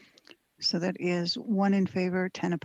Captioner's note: speaking French